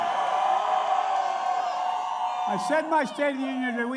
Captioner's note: applause